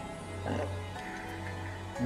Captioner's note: belches